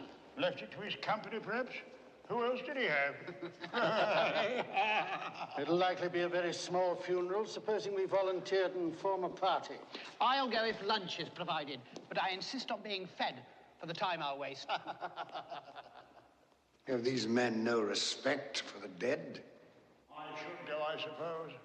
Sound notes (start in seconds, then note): 3.1 MEN LAUGHlNG